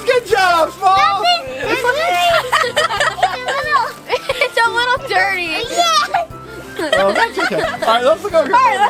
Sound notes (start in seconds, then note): 1.4 assistant laughing